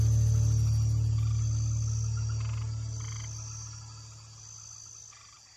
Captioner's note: insects chirping